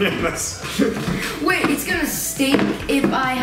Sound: laughs

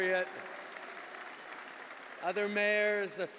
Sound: applause

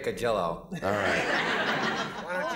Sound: laughter

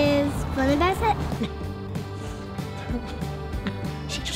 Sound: laughs

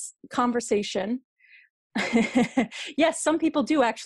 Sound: laughter

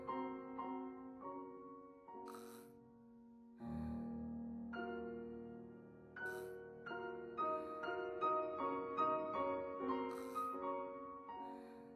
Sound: panting, gasps

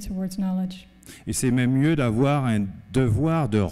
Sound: speaking french

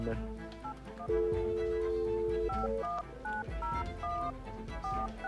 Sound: phone dialing

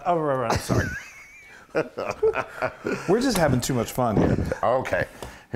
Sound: laugh

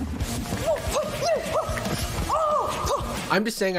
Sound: grunting aggressively

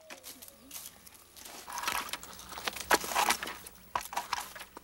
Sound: stick scraping

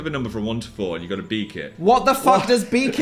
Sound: laughs

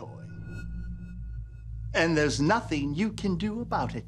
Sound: pulsating

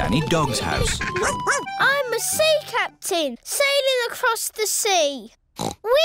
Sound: barks; oinks

